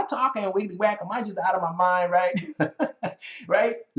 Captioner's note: laughing